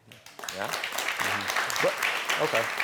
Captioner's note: audience applauding